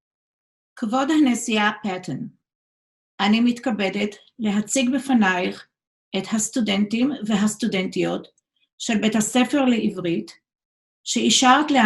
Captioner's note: speaks in Hebrew